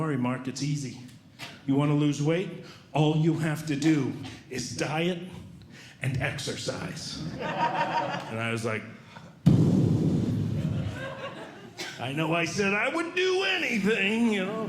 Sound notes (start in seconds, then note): 7.2 audience Laughing; 9.2 exhaling